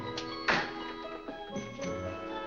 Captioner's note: door closes